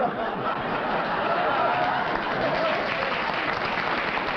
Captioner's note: laughter, applause